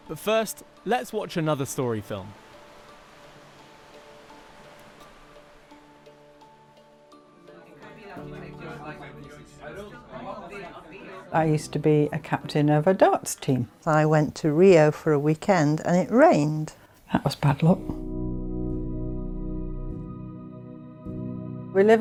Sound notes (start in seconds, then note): 2.6 uplifting instrumental music; 2.6 waves rushing; 7.4 people chattering; 17.7 slow instrumental music